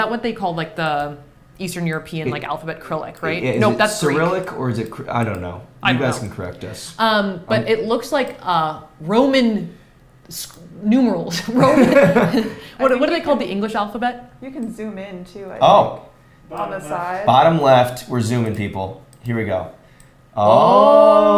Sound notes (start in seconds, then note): 11.5 laughs